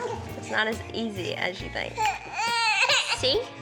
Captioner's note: cries